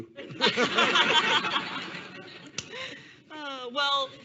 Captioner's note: all laughing